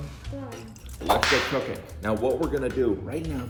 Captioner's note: whip snapping